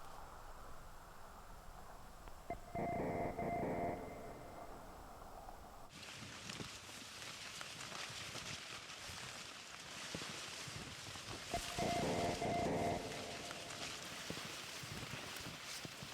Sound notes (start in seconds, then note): 2.4 distorted electronic tones ring; 5.1 leaves rustle; 11.5 distorted electronic tones ring; 15.9 leaves rustle